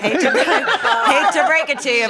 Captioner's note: laughter